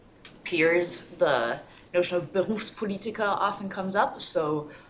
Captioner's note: german